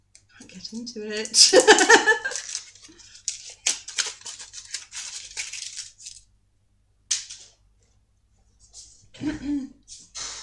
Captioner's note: laughing